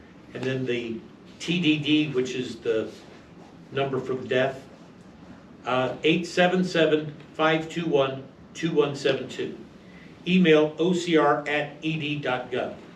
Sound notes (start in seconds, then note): 5.6 reading from paper